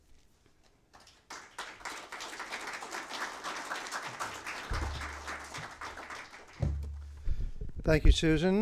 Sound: applause

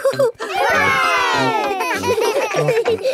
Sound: chuckles; laughing

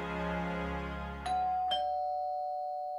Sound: doorbell rings

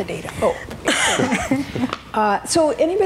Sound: laughing

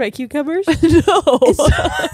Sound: laughs

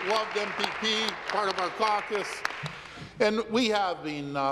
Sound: applause

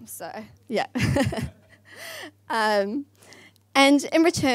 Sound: laughs

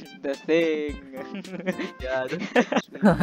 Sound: chuckles

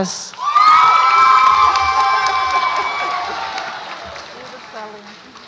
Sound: audience applauds and cheers

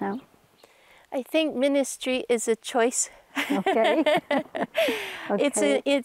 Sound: laughs

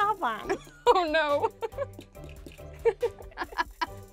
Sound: laughs

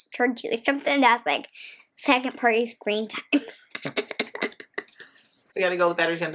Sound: laughs

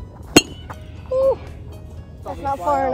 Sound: tennis ball hitting metal bat; whoo's in surprise

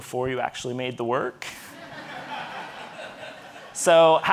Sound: audience laughing

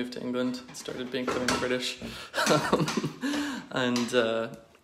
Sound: laughs

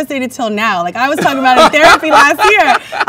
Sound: man laughs

